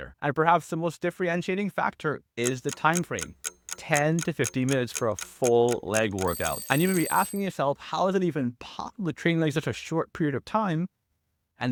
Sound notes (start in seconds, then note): 2.4 clock ticking